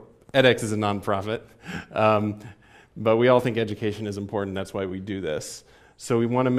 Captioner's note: laugh